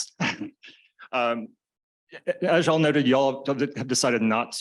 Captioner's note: laughs